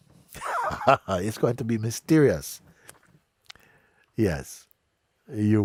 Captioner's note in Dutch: Mooji lacht